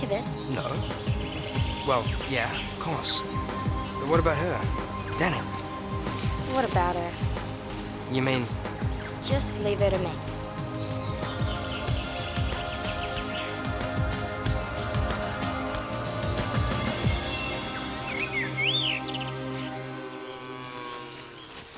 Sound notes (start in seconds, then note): 11.4 dramatic music; 18.4 birds chirping; 20.0 cow moos